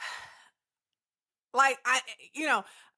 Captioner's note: sighs